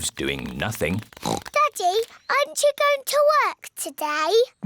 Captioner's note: oinks